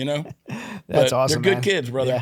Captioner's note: laughing